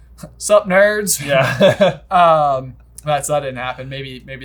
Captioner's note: both laughing